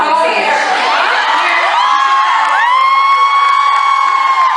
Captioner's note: audience cheering very loudly